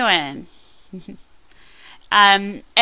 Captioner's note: chuckles